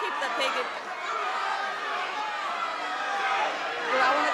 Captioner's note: crowd exclaiming